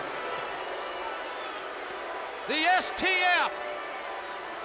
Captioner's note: audience applauds and cheers